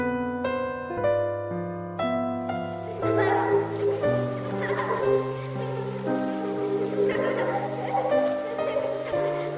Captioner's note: kids playing